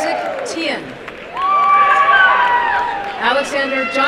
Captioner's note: applause and cheering